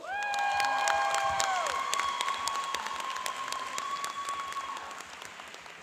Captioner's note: cheering and applauding